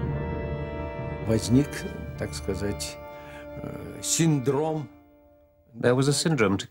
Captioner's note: speaking Russian